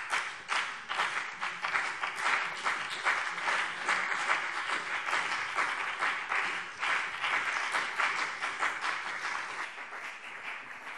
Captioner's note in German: Beifall BÜNDNIS 90/DIE GRÜNEN und vereinzelt CDU